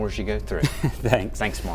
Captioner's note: laughing